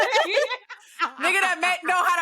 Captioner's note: laughing